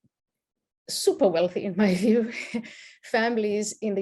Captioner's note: chuckles